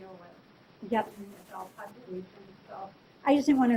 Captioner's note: speaking faintly